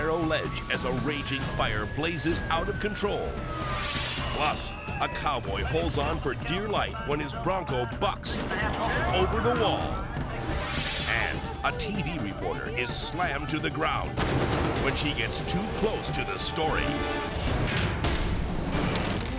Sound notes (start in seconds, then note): 3.6 screen whooshes; 10.4 screen whooshes; 14.1 explosion booms; 16.8 graphics booming